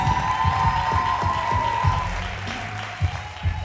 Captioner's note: cheers and applause